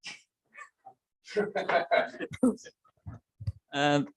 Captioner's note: laughter